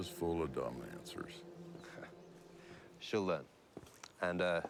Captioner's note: chuckles